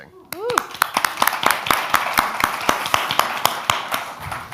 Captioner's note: audience applauds